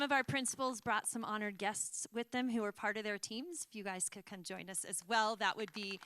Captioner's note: applause